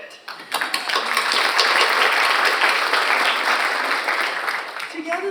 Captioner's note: audience applauds